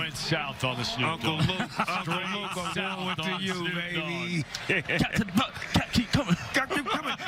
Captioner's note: laughter